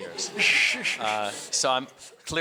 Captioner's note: audience laughs